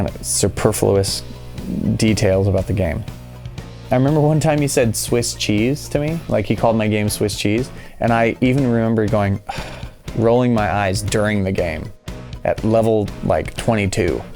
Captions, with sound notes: superfluous details about the game. I remember one time he said “Swiss cheese” to me. He called my game Swiss cheese. And I even remember going [sighs]. Rolling my eyes during the game at level 22